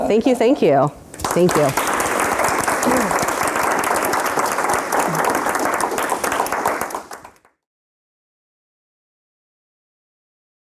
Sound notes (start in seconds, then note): 1.1 applause